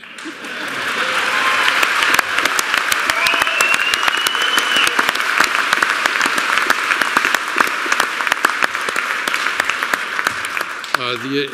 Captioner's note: applause